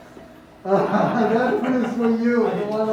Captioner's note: laughs